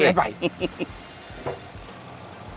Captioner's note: chuckles